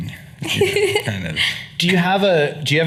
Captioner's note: laughing